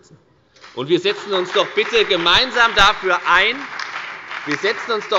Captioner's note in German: Beifall bei der FDP, der SPD und der LINKEN